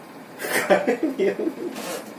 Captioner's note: people laughing